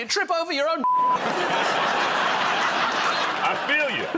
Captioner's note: laughter